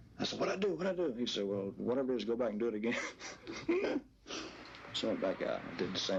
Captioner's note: laughing